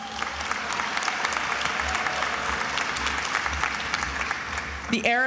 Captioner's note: attendees applauding